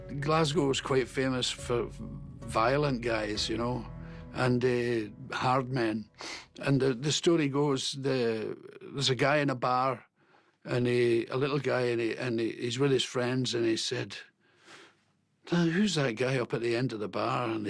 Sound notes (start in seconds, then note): none